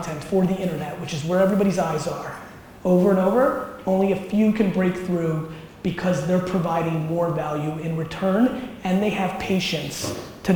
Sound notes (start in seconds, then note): none